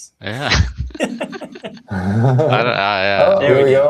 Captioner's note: laughter